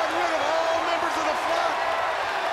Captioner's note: crowd cheering